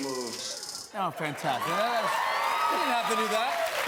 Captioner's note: cheers and applause